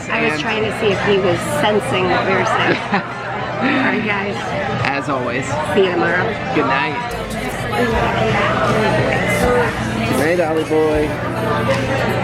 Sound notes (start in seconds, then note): 2.7 chuckles